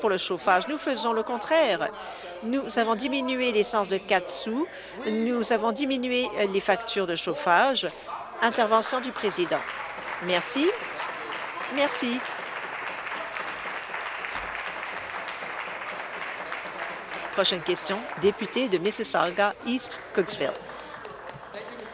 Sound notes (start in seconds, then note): 12.7 applause